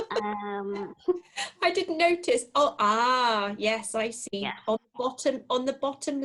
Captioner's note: laughter